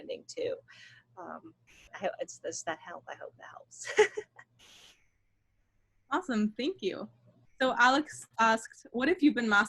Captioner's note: laughter